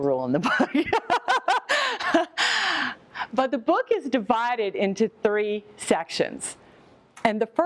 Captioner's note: laughs